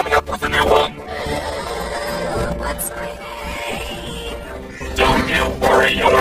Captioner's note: groaning